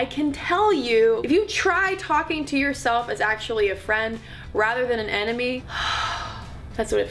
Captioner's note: deep breath